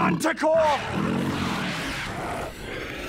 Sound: roar of a very big monster; snarling

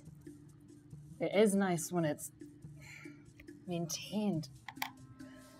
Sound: sighs

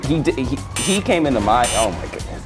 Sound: beep

